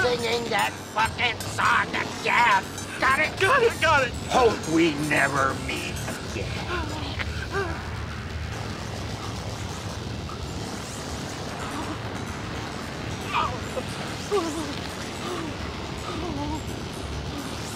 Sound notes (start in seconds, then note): 13.3 Barry continues wailing and huffing